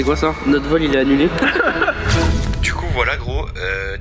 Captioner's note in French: rire